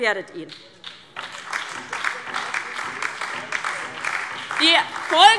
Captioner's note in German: Beifall DIE LINKE, vereinzelt BÜNDNIS 90/DIE GRÜNEN und SPD